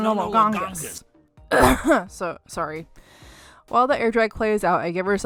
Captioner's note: cough